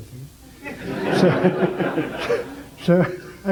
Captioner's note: general laughter